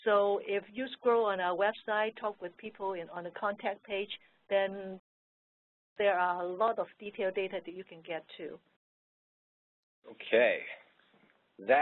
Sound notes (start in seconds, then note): none